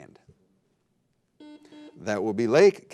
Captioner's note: buzzer beeping